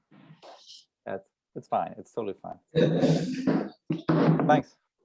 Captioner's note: haha